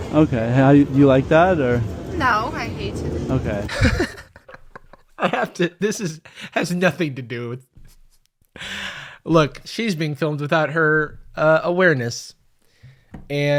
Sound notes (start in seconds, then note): 3.6 laughing